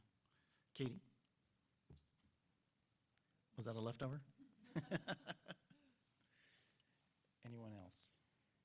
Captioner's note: laughter